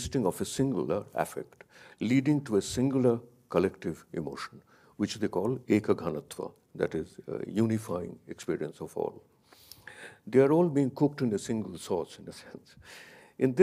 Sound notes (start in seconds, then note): 5.5 speaks in a foreign language